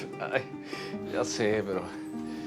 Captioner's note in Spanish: Risas